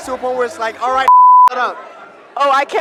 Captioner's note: beep